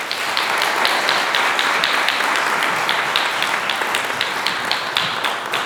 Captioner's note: applause